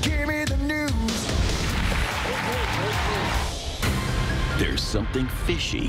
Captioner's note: audience clapping